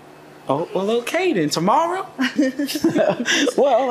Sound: giggles

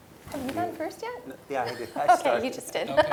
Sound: laugh

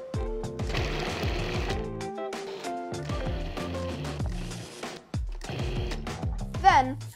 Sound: upbeat music; food processor whirring

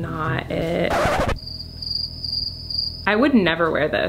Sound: scratch sound; stridulating

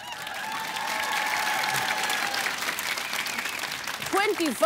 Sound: applause

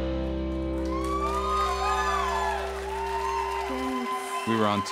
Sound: applause

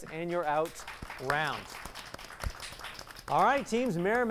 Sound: applause

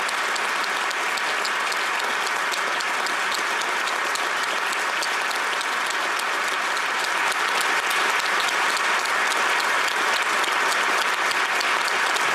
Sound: applause

